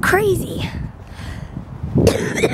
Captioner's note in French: tousse